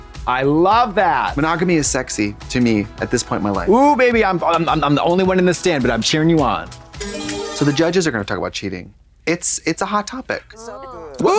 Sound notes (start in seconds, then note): 6.7 bright chime